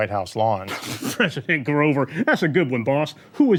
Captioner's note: spluttering